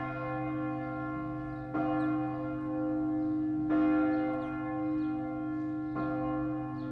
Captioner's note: bell tolling